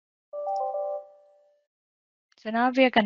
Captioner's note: electronic alert